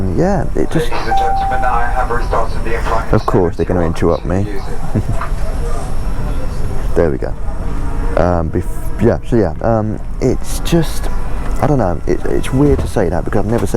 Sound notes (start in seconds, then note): 0.9 cabin announcement takes place